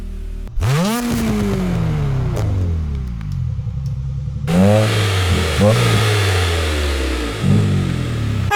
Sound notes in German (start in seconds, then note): 0.0 Motoraufheulen